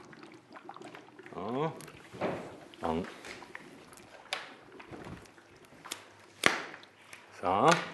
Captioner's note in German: Blubbern hörbar